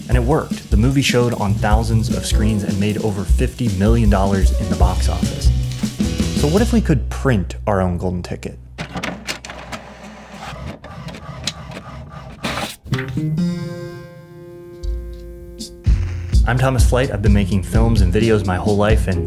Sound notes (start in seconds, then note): 8.8 printer &whirring; 12.9 mellow music